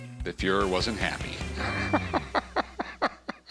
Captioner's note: laughs